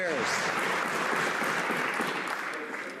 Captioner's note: some Applause